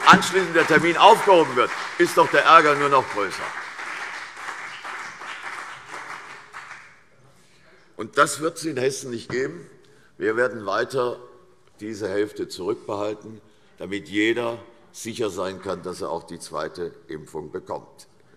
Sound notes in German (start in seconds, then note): 3.9 Beifall CDU und BÜNDNIS 90/DIE GRÜNEN